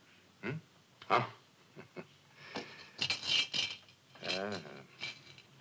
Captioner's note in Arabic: يضحك